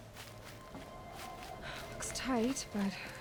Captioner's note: sigh